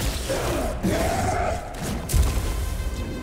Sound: roar

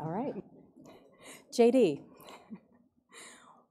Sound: laughs

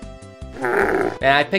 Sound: DOOM Soldier Death sfx

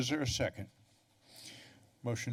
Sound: pause

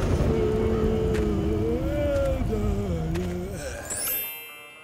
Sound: moaning

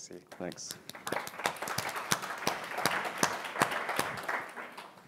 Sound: applause

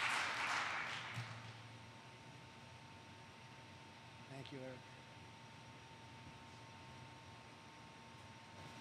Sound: applause

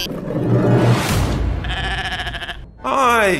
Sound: goat blah

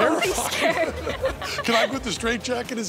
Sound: audience laughs

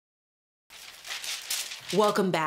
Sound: papers rustling

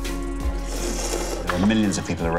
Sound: slurping

